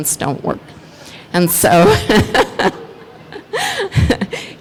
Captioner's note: laughs